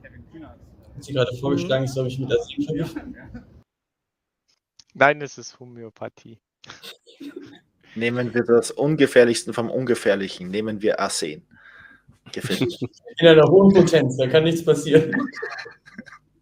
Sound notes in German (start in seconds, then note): 6.7 lacht; 14.7 lacht